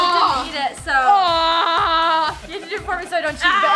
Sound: yelling

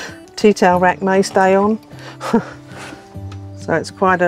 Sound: chuckles

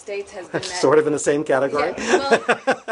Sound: laughter

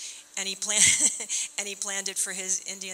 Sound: chuckling

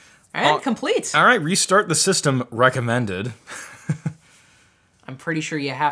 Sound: laughs

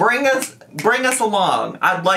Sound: fingers snapping

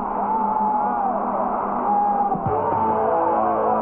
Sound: cheering

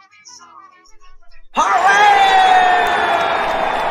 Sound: all cheering

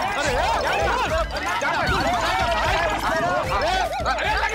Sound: indistinct chatter

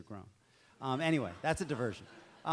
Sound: audience laughs

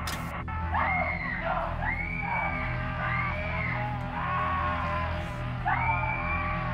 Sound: girls scream; panel thuds; girl screaming; chainsaw buzzing

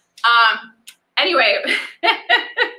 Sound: laughs

